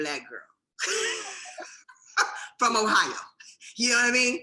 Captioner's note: chuckling